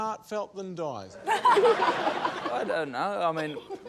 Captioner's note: laughter